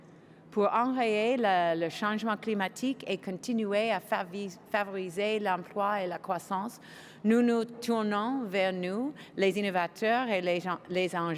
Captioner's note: speaking French